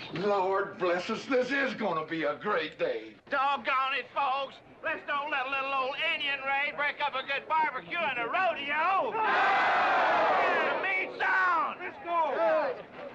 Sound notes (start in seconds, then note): 9.0 crowd cheering